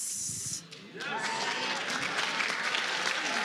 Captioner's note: applause